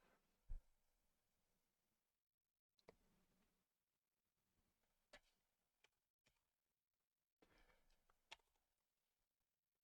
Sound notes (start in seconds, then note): 2.0 clicking